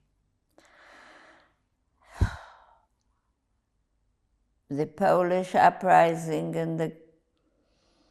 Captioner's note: sighing